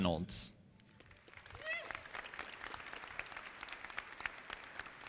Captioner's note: audience clapping